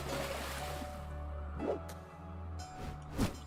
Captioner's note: splash of falling into water